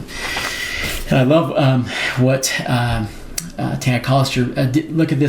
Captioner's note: deeply inhales